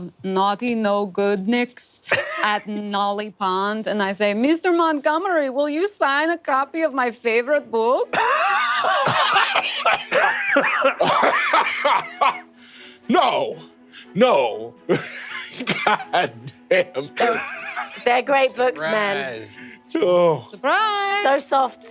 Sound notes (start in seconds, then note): 8.1 laughs